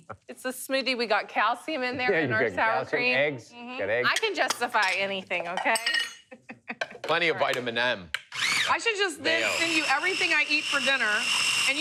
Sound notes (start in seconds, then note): 6.0 laughs